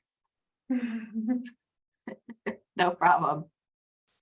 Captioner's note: chuckling